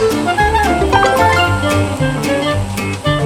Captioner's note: notification